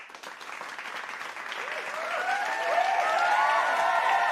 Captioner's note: cheers and applause